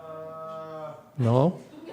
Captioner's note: audience laughs